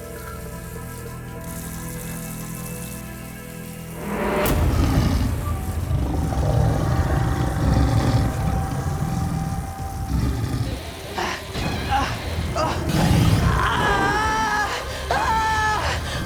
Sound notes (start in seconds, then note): 8.0 growling; 13.8 screaming